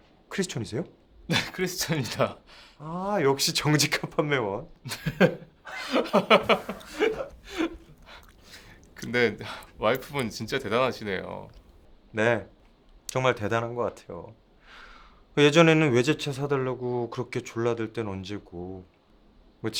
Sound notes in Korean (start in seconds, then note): 4.8 웃음